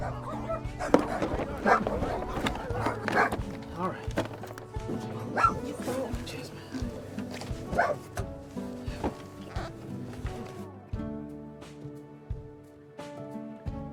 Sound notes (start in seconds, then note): 3.4 dogs barking